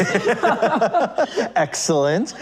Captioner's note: laughing